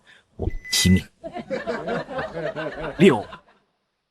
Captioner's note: unintelligible laughter